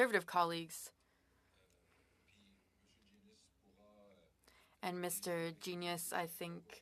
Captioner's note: speaking French